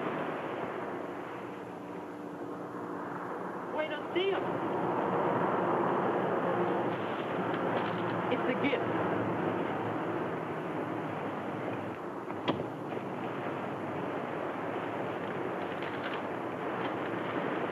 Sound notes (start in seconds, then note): 3.9 speaks in foreign language; 12.6 knife thuds into wood